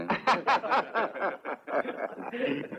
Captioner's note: all laugh